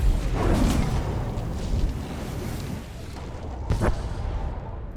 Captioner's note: explosion